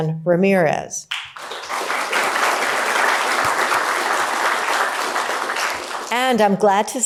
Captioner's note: applause